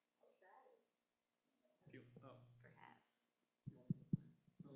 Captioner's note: audio off